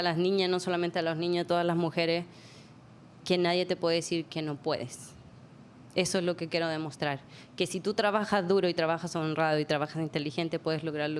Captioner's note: speaking spanish